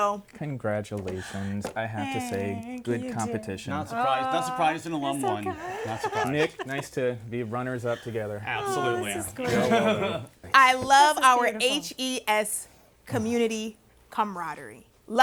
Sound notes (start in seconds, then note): 5.0 chuckling